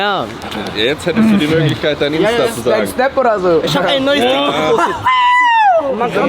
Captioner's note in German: gelächter